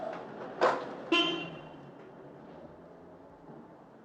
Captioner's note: car horn honking